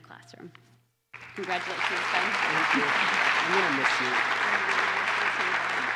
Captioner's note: applause